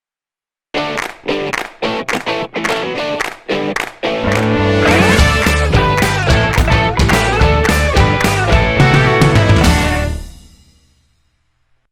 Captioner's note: claps